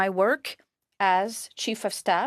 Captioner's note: speaking French